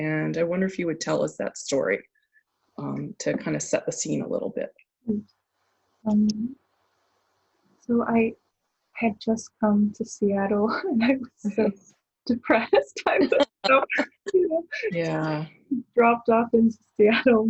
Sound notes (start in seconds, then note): 13.1 laughing